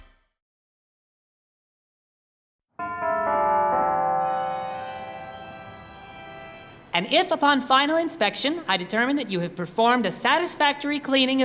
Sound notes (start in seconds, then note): 2.8 organ chords; 2.8 bells chime